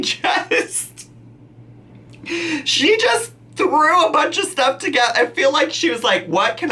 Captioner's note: laughing